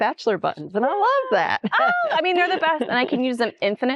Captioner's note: chuckles